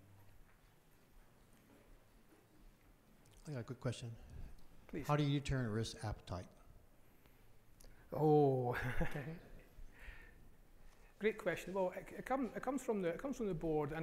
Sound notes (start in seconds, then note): 8.7 laughs